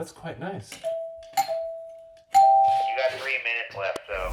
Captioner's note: bell dinging